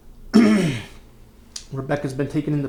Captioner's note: clears throat